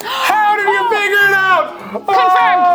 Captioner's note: gasps